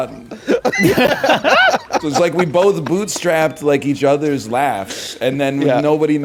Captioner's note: laughs